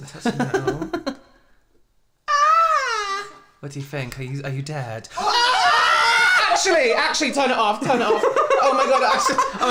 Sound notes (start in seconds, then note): 2.2 fake Scream; 5.1 real Scream